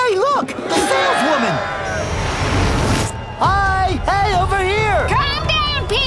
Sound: crowd roars

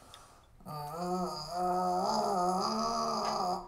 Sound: groaning

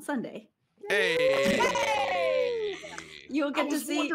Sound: players cheer

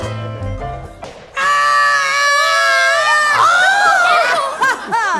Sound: screaming

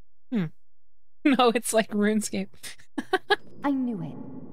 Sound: laughter

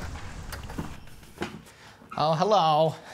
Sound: door opening

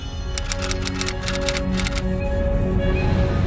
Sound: text clacking; dramatic music

